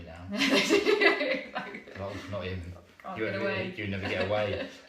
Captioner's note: laughter